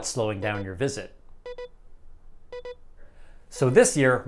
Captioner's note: beeping light bulb